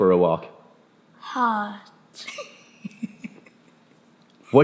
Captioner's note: laughs